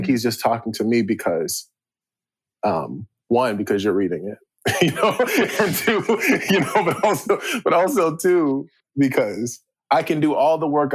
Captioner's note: chuckle